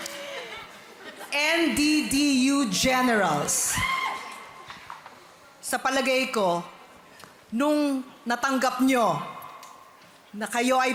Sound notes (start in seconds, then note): 0.0 kathryn, audience chuckle; 4.2 audience member squeals